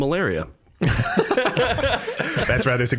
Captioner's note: all laughing